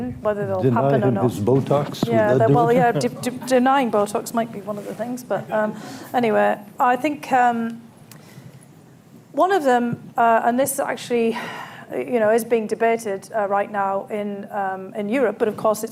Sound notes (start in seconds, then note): 6.9 laughter